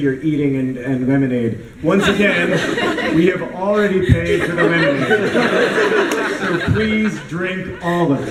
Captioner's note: laughter; laughter